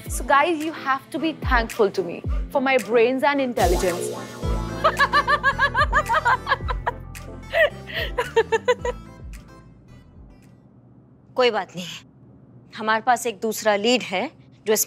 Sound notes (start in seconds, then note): 4.8 laughing hysterically